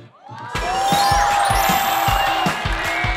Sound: clap

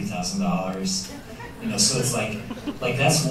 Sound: laughter

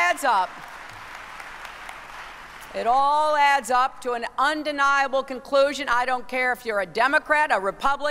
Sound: applause

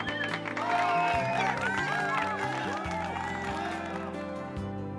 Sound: cheering

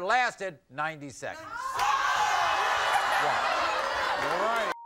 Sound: audience gasps

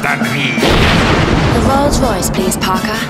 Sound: rocket engine roaring

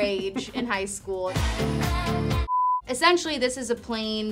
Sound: TV beeps

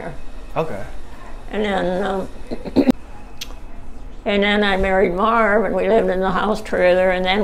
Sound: clears throat

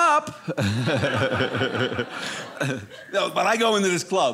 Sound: audience laughing

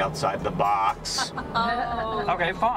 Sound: laughter

